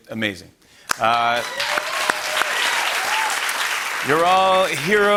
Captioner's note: cheering and applause